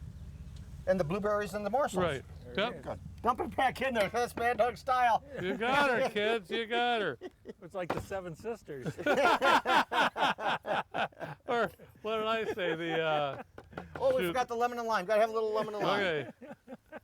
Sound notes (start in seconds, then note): 8.6 men laughing